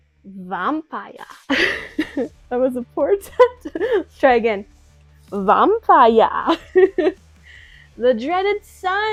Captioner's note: laughs